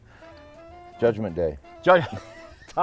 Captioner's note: laughs